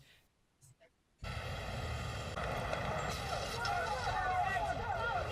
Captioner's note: ambulance siren ringing